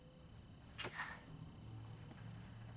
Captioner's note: sighs